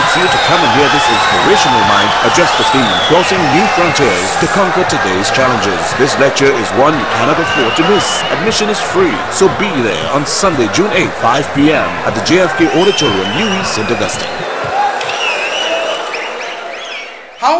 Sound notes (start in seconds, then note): 13.3 wild applause and cheering for 22 seconds